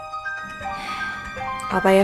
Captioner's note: sigh